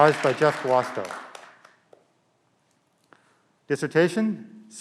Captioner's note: clapping